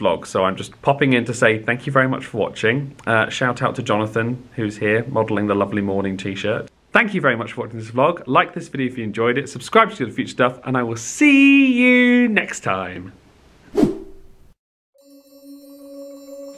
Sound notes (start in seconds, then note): 13.7 title whooshes